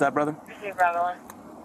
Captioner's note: radio chatter